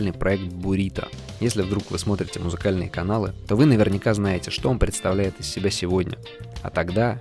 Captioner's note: russian